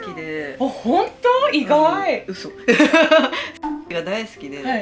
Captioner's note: laughs